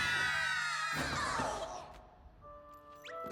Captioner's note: crash